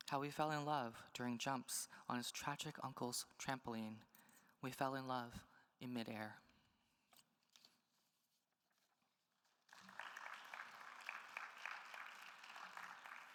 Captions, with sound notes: How we fell in love during jumps on his tragic uncle's trampoline. We fell in love in midair. (attendees applauding)